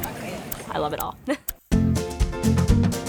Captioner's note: laughs